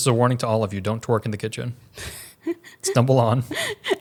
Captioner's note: laughs